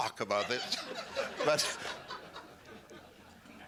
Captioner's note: laughter